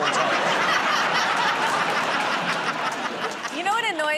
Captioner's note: laughter